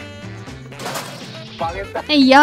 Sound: bang!

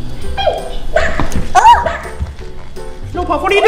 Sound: barking

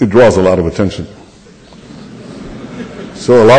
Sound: laughter

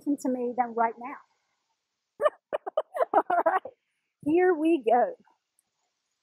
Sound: laugh

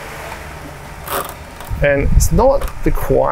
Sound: lever creaks

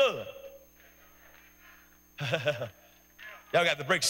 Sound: laughs

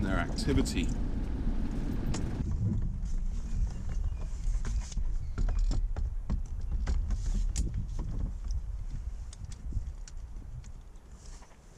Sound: sounds of grabbing camera

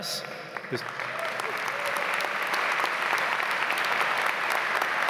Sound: audience applauds

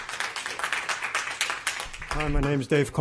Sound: applause

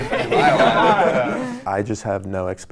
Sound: everyone laughing

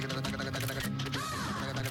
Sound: camera click

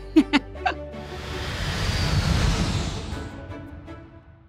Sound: laughs; engines roaring

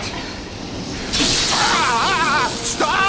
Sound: screaming

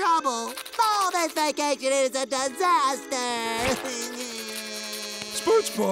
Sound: crying

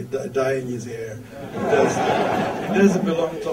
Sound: audience laughter

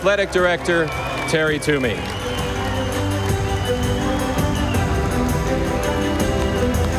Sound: audience applauding; stately music

